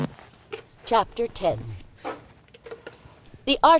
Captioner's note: audio book narration playing from stereo system